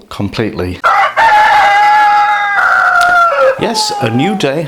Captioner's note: cock crowing